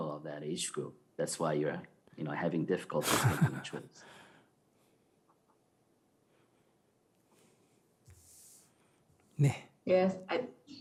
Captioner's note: laughter